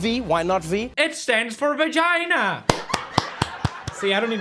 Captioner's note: claps and laughter